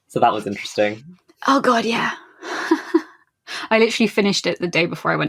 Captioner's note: laughs